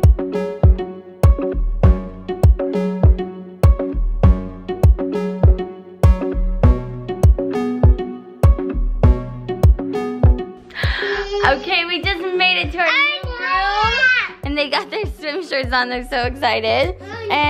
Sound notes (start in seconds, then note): 10.7 gasp; 12.8 kids yelling